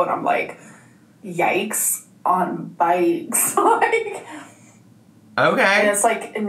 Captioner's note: laughs